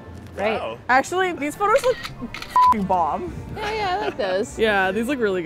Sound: beep

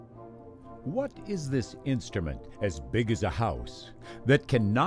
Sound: voiceover

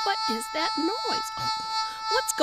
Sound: buzzing sound

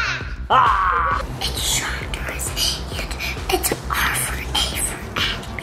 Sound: whispering

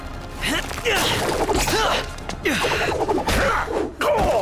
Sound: grunts

